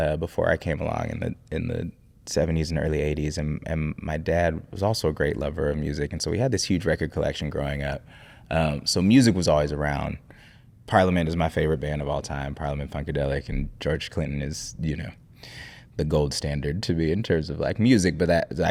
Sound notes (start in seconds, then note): none